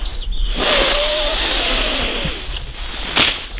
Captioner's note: intensive sniffing sounds